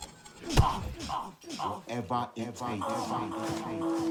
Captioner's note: punch thuds; Malcolm groaning; voice echoing